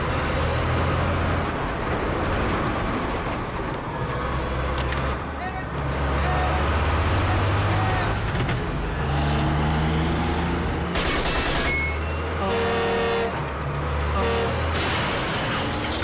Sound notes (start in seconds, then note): 5.8 soldiers shout; 11.0 gunfire; 13.7 truck horn blares